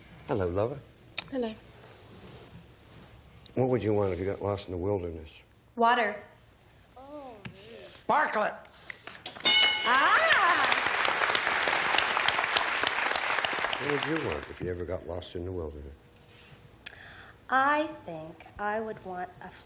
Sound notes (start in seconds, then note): 9.4 ding; 13.4 applause